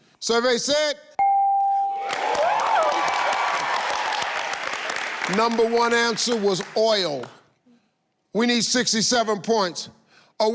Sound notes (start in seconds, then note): 1.2 bell chimes; 1.9 audience cheers